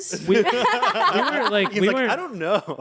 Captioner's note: everyone laughs